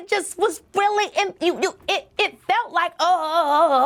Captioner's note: exclaiming